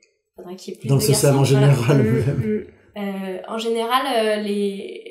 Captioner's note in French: rire